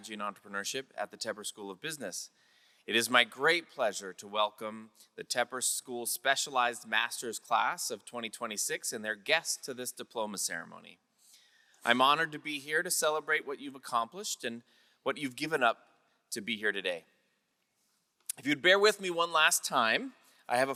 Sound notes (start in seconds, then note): none